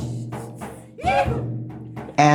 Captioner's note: shout in unison